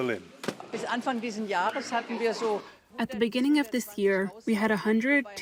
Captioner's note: through translator